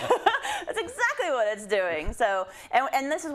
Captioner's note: laugh